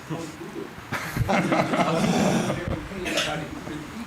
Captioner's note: laughter